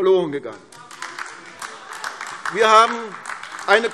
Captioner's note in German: Beifall AfD